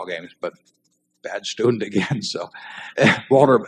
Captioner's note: laughs